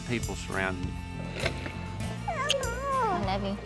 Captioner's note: smooch